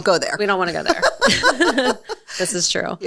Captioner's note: both laughing